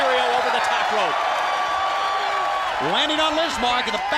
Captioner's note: crowd cheering